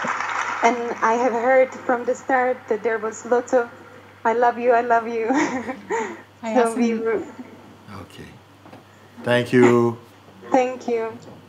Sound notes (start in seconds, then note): 5.2 laughter